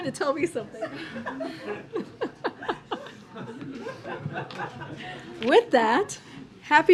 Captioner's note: laughter